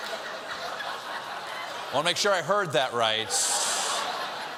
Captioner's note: laughter